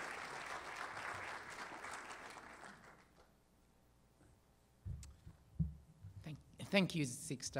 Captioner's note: applause